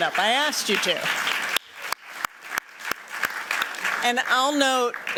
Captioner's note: applause